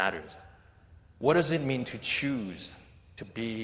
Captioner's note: none